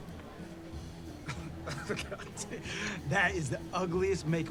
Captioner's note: man chuckles